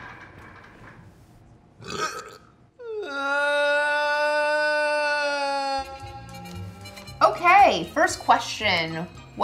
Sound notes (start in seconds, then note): 1.8 belches; 3.1 whines; 5.3 casual music